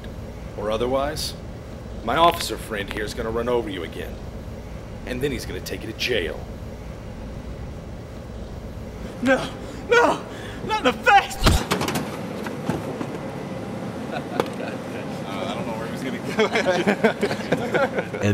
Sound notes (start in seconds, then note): 11.3 wham; 16.0 laughter